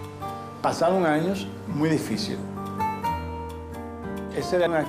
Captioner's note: speaking Spanish